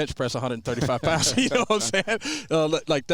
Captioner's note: all men laughing